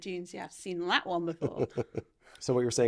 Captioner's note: laughing